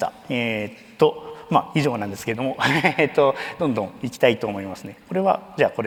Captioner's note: chuckles